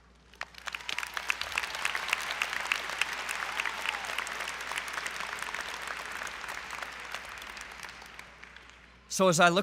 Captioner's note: applause